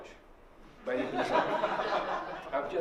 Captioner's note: laughter